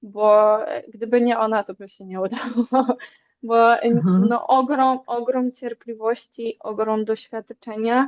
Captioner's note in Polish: śmiech